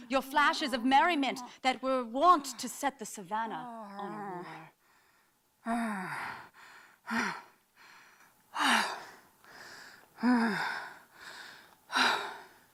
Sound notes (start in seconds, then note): 5.3 grunting and panting